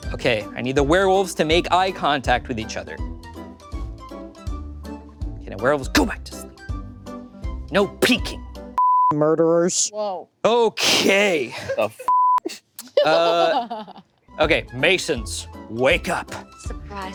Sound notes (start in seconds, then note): 4.1 playful music; 8.8 beep; 12.0 beep